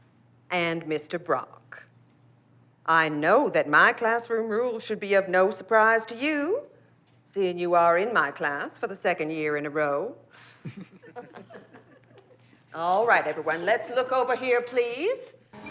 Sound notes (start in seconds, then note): 10.4 laughter